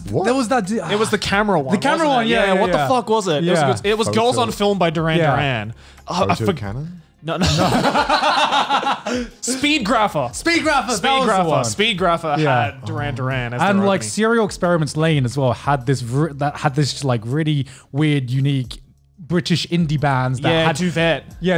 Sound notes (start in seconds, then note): 5.6 laughs; 5.6 murmurs